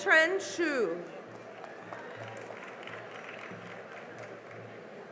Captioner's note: cheering and applause